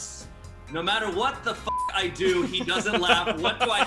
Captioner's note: beep